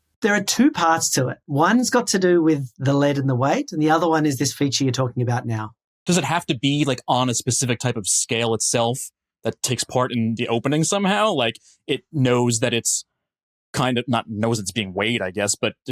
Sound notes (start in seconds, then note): none